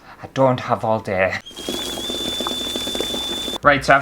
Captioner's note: kettle Bubbling & Whistle